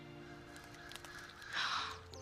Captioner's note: cracks Egg; gasps